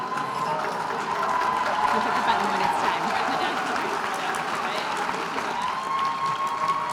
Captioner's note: audience cheering and applauding